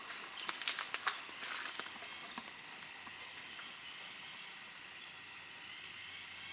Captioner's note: foliage crunches in the distance